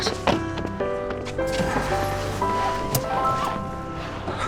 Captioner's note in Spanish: motor enciende